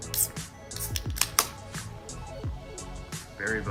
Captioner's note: beer can opening